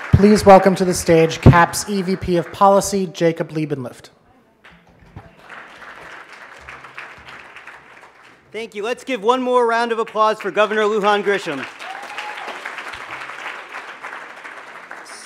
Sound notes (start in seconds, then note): 1.8 applause; 9.7 applause